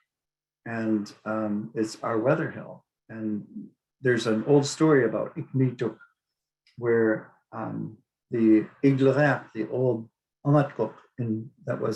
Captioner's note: speaking Inupiaq